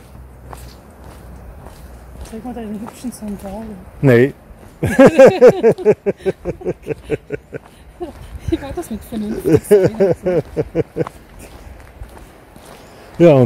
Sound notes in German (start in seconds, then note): 4.8 Gelächter